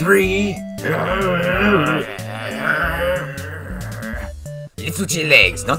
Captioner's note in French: grognements